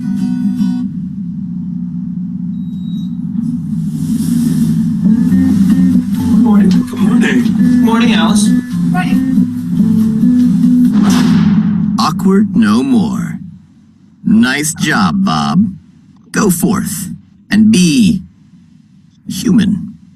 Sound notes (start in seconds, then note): 2.1 machinery whirring; 4.3 light music; 10.9 metallic clanging